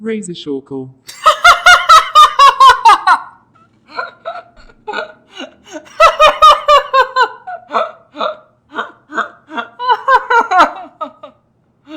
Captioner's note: Pidgy laughing very hard